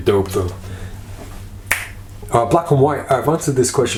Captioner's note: snaps fingers